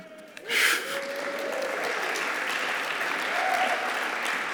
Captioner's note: applause